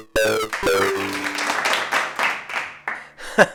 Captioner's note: sparse applause